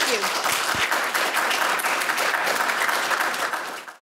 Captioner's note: group applauding